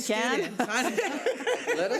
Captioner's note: laughing